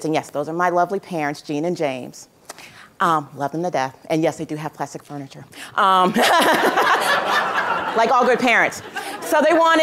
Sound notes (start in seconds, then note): 6.1 laughter